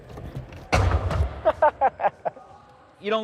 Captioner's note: laughter